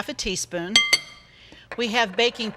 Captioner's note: glass clanging